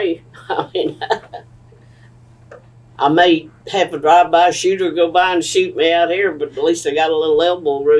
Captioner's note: laughs